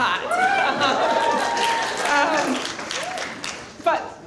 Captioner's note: cheering